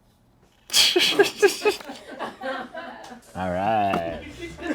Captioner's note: laughs